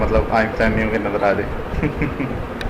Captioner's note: laughing